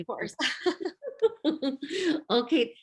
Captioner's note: laughs